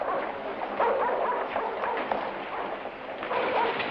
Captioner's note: dogs barking